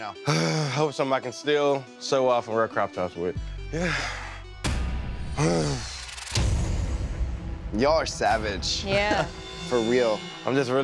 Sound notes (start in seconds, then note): 5.3 big sigh